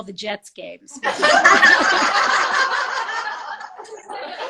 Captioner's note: all laugh